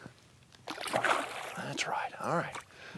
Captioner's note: water splashing